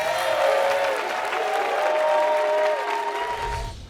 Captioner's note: applause